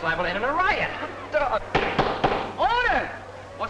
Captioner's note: gavel banging